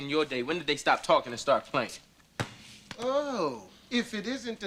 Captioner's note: ball bounce